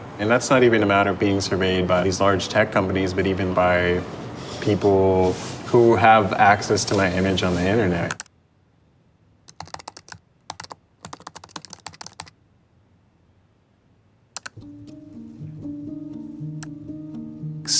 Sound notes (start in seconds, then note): 11.0 keyboard keys clicking; 14.4 gentle music